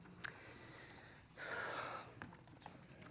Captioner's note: exhales